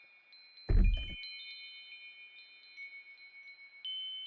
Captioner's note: door opening